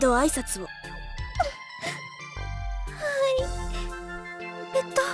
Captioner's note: sniff